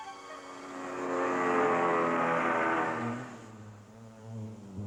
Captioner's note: making airplane sound